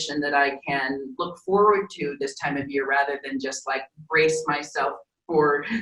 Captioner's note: laughing